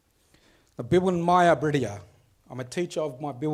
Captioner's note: speaks foreign language